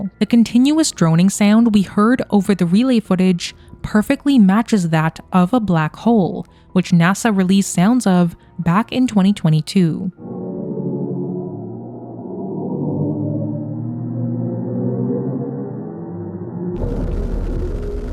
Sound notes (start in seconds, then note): 10.1 black hole droning; 14.3 relay droning